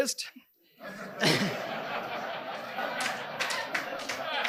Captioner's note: audience laughing; audience members clapping